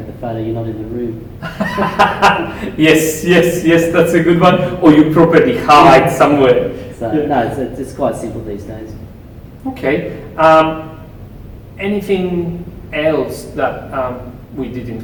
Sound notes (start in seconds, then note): 1.4 laughing